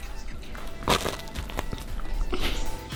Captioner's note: bread crunching